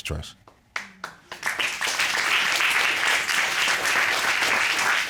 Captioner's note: applause